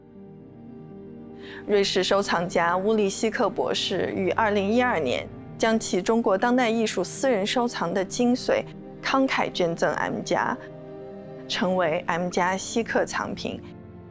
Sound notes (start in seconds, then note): 1.9 Mandarin